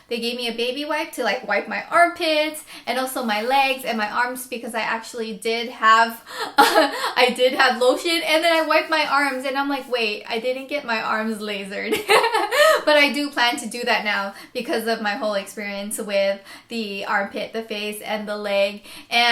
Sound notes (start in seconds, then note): 12.0 laughs